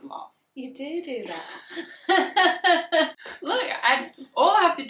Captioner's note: laugh